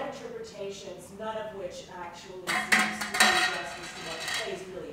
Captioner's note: plate drops